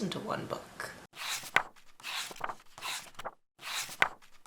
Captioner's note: pages turning